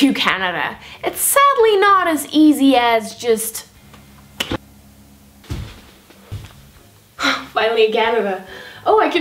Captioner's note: snap